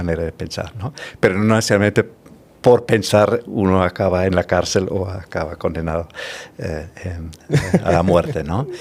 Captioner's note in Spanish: risas